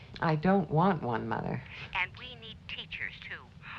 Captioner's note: on phone